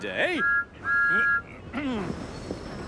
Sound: thomas whistles

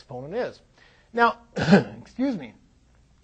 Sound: clears throat

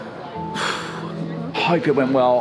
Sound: sighs

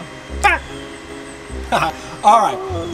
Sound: giggling

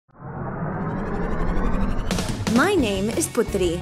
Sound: engine whirring

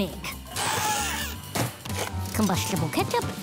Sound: squawking

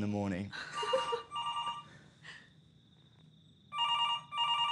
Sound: phone ringing

